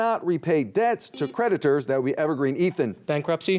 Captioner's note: buzzer beeping